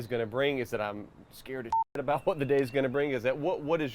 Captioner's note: beep